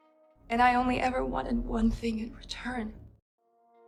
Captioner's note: voiceover